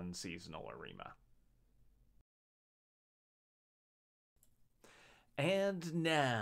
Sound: In a Michael Buffer voice

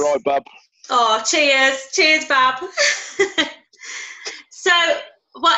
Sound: laughter

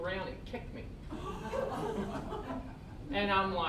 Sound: all laughing

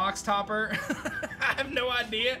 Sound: laughs

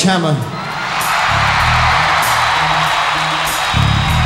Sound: audience cheering

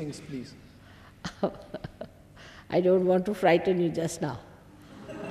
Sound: shri mataji laughs; shri mataji laughs

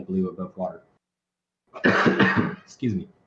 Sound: coughs

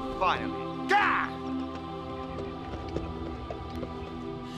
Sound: Xax yells

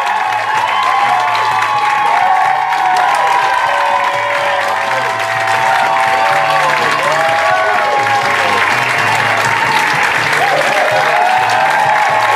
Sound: music and applause

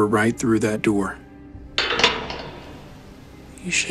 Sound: unlocking prison cell

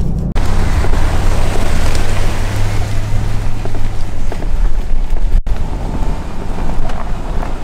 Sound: engine humming; gravel crunching

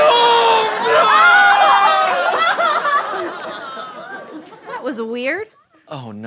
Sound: sobbing

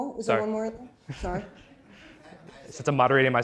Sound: laughter

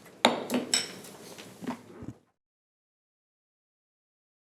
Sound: gavel banging

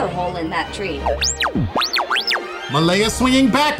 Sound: beeping

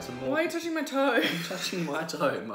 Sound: laughing

